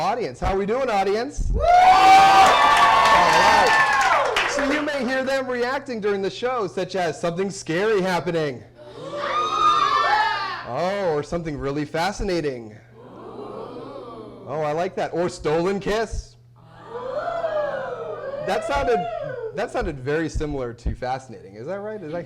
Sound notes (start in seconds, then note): 7.4 cheers and applause